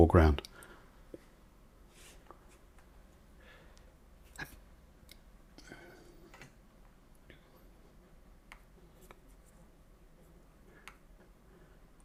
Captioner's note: silence